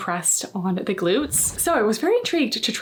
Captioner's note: graphic whooshing